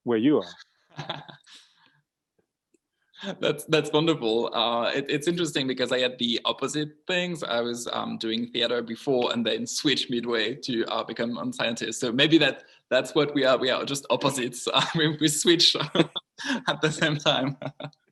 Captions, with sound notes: Where you are. - (laughs) That's wonderful. It's interesting because I had the opposite things. I was doing theater before and then switched midway to become a scientist. So maybe that's what we are. We are just opposites. We switched at the same time (laughs).